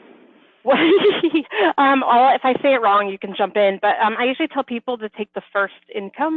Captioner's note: laughs